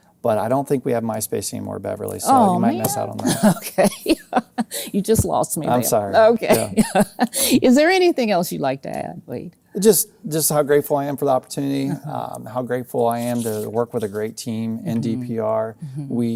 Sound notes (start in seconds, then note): 3.9 laughing